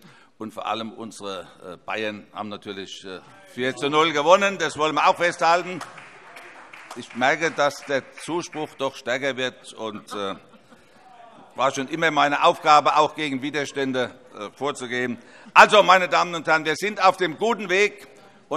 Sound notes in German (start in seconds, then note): 5.7 Vereinzelter Beifall und vereinzelter Widerspruch; 14.5 Heiterkeit